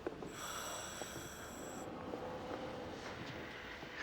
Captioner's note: wheezing